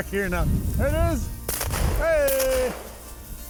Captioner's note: gun firing